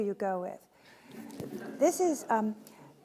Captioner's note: audience laughing